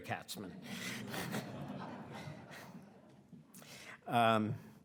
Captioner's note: audience laughing